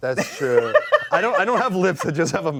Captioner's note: laughs